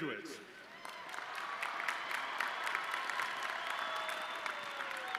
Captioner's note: audience cheering